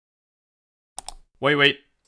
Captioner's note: another click